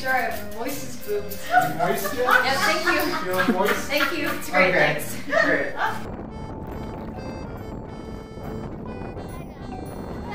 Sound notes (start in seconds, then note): 6.3 wind whooshing